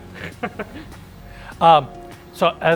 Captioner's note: laughing